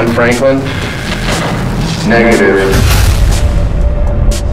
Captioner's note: explosion